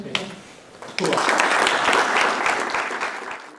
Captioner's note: applause